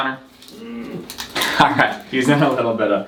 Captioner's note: grunts